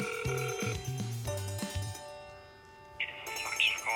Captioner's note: line ringing